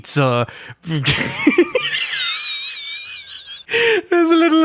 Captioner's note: wheeze